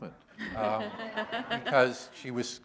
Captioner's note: laughter